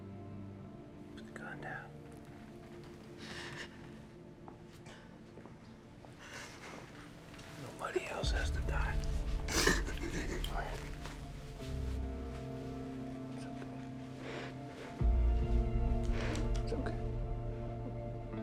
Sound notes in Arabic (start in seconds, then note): 3.0 موسيقى متوترة; 9.2 بيني تبكي